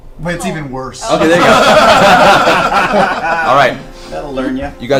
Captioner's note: all laugh